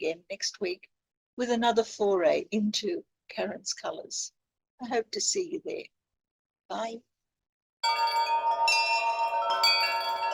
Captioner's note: chimes